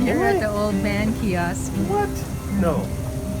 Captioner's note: laughs